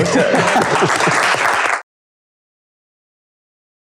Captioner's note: applause